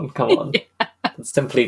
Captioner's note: laughing